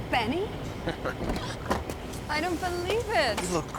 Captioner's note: laughs